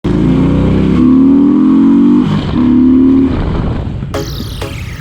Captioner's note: motorcycle acceleration exhaust sound